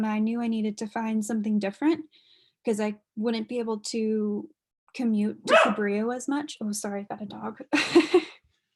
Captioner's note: dog barking